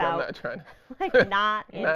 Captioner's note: laughing